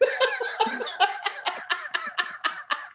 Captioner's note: laughter